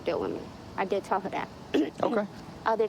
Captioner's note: clearing throat